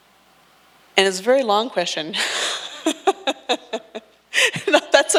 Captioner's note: laughs